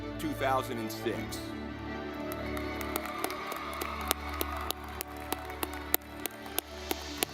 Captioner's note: dramatic music; audience clapping